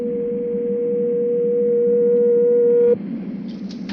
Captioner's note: machine beeping